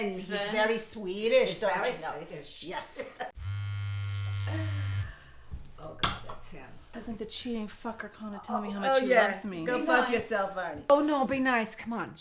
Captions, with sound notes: WHAT DOES HE LOOK LIKE? SVEN. HE'S VERY SWEDISH. HE'S SWEDISH, YEAH. [ CELL PHONE BUZZES ] OH, GOD, THAT'S HIM. IF IT ISN'T THE CHEATING FUCKER CALLIN' TO TELL ME HOW MUCH HE LOVES ME. OH, YES. GO FUCK YOURSELF, ARNIE.